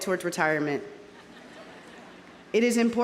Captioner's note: audience laughing